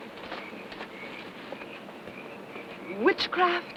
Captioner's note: footsteps pattering